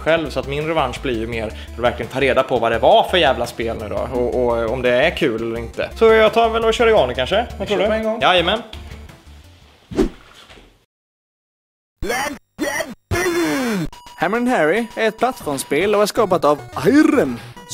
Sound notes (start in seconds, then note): 9.9 ninja swoosh